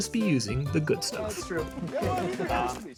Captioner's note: laughter